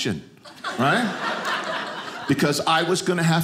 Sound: audience laughing

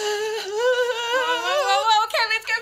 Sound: crying

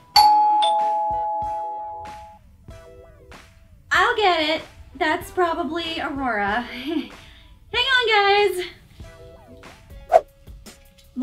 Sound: doorbell

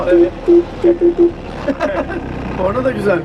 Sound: laughing; honking

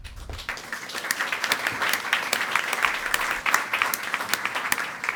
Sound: audience applauding

